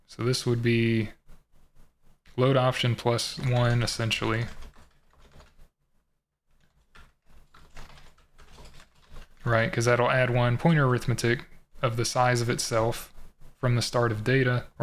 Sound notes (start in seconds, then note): 6.6 typing